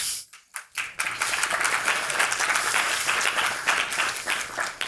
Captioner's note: audience applauds